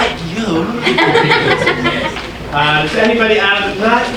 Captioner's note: audience laughing